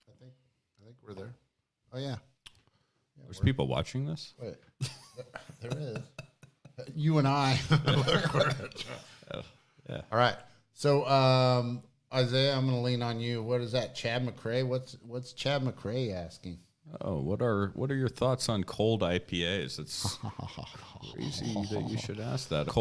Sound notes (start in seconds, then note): 4.8 laughs